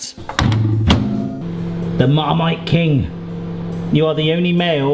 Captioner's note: humming